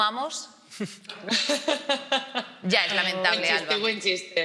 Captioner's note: she laughs